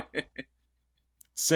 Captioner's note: laughs